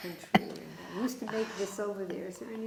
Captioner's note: laughing